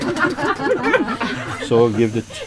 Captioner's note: laughter